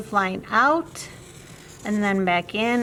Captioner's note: marker scratching